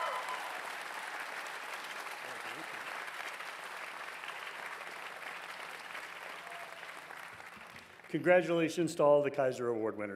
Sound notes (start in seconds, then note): 6.5 cheers and Applause